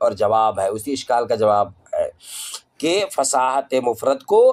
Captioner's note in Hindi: नाक से की जाने वाली आवाज़